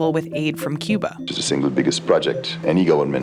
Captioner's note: soundbite of archived recording